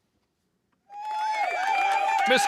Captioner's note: audience cheering